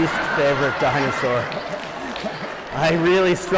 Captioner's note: laughter